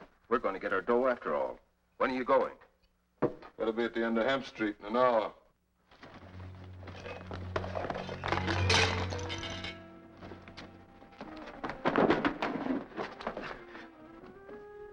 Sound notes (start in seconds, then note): 6.4 suspenseful music; 7.5 metal clattering